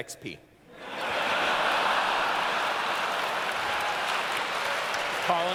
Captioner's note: laughter